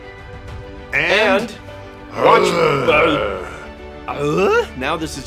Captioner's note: speaks bear